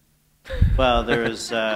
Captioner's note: chuckle